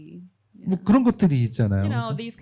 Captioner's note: speaking korean